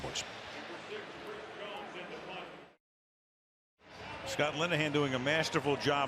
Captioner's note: pa announcement